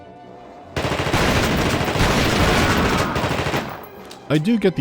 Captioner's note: rapid gunfire